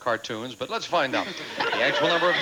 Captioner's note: audience laughing